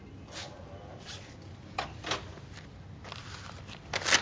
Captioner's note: door latch clicks